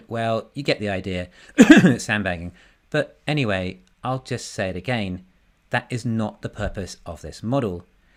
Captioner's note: cough